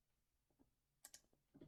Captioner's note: click